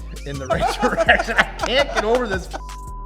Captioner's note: laughter